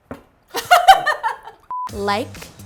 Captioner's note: laughter